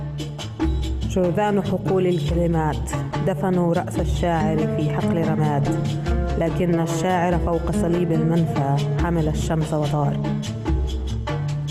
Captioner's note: reading in Arabic